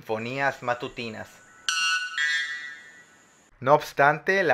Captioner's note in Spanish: Canto de pájaro